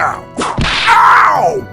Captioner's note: whip crack!